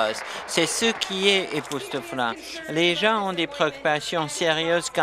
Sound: applause

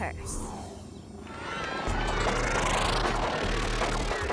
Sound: crowd cheering

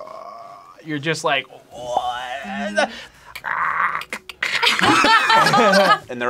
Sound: imitates croaking; both imitate clicker sounds; both laugh

